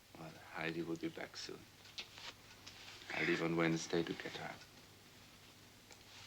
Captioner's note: none